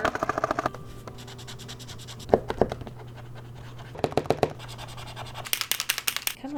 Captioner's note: markers tapping and shaking